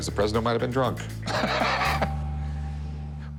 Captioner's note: laughs